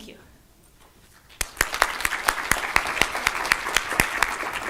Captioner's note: loud applause